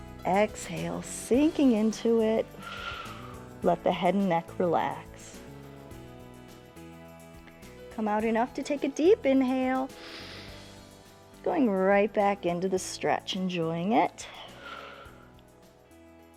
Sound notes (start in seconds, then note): 2.5 exhales; 10.0 inhales; 14.3 exhales